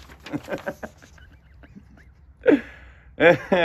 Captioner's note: laughs